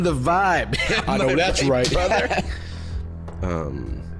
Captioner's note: laughter